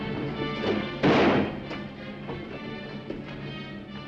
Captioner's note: dramatic music; gun firing; dramatic music